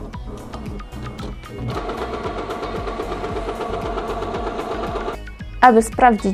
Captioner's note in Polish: odgłosy chrobotania